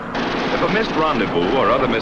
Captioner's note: guns firing